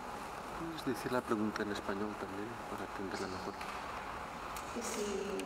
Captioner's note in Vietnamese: tiếng Tây Ban Nha